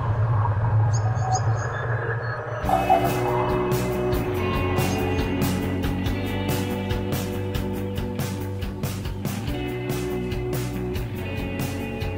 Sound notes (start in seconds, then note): 0.8 whispering